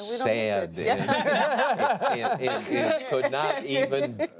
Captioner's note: laughter